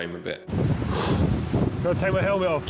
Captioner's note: lifeguard sighing